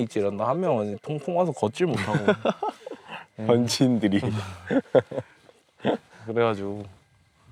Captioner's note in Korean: 웃음